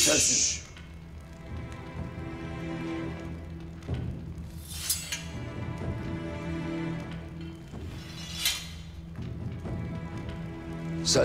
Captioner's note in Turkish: Ateş çıtırtıları ve kılıç sesleri